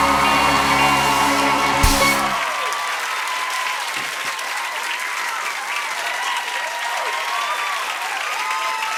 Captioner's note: cheers and applause